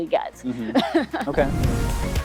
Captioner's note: laughing; upbeat music